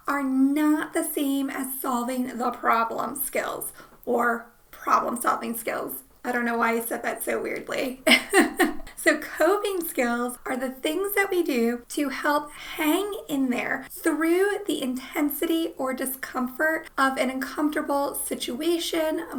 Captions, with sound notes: are not the same as solving the problem skills, or problem solving skills. I don't know why I said that so weirdly. (laughs) So coping skills are the things that we do help hang in there through the intensity or discomfort of an uncomfortable situation,